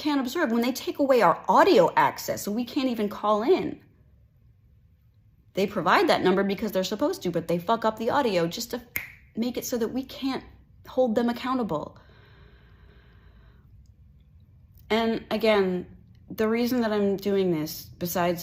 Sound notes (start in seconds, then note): 8.9 snap